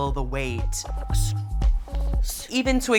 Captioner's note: exhaling